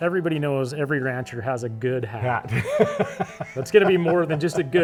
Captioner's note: laughs